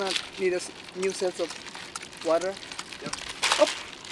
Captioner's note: water sploshing